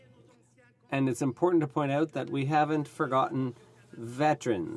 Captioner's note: speaking French